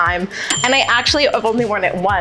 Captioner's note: bell dings